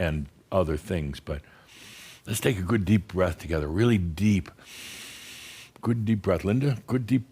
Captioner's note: Adamus takes a deep breath